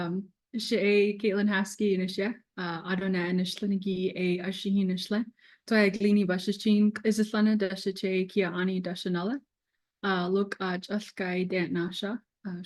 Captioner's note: speaking native language